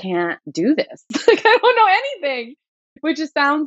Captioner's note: laughter